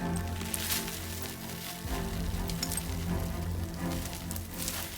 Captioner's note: rocks clattering